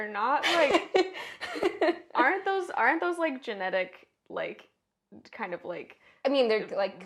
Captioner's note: laugh